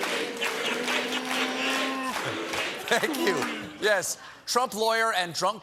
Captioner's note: chanting rudy